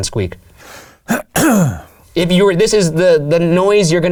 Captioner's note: clears throat